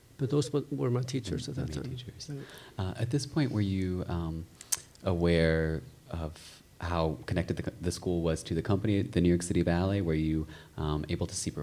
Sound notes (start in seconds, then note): 0.0 chuckles; 3.2 murmurs